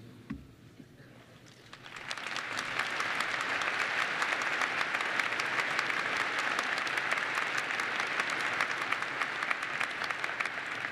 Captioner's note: applause